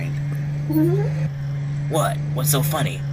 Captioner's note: Lucy giggles